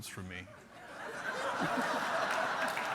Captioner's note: applause